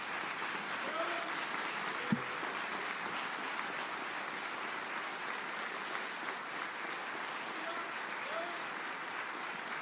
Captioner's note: applause